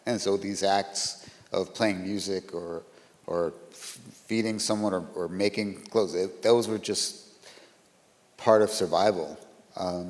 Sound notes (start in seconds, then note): none